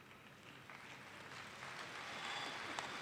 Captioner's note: applause